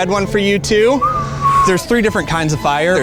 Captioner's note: whistling